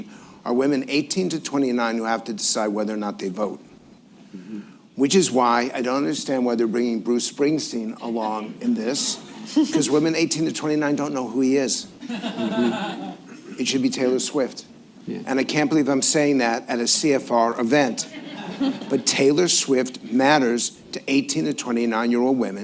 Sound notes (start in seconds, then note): 12.0 laughter